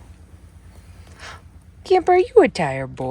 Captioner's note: gasps